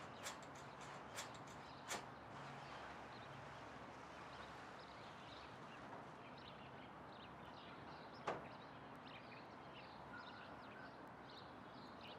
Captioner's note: birds chirping